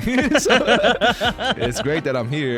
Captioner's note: laughing